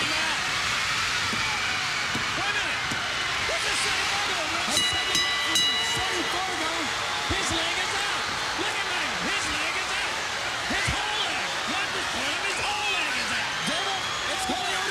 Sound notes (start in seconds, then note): 0.2 crowd cheering; 4.6 bell ringing; 5.4 crowd chatter